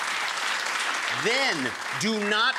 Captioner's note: crowd clapping